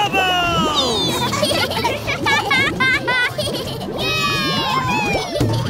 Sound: laughing and cheering

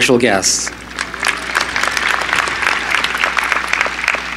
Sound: applause

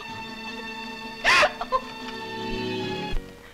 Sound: crying

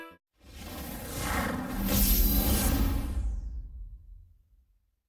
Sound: epic digital sounds

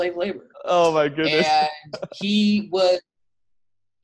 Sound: laughs

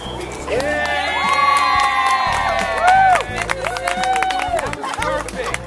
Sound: cheering

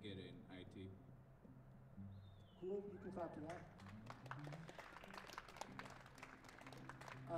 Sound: applause

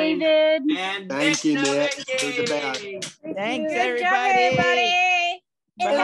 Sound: everyone indistinctly talking

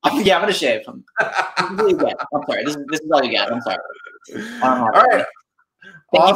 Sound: speaker muffled by microphone

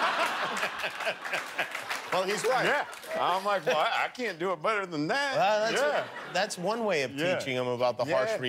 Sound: laughter

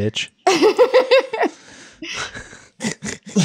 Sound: laughing

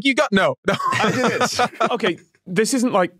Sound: laughs

